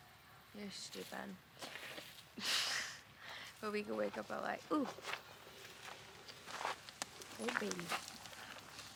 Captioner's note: laughs